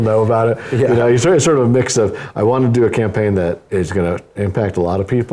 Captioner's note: laugh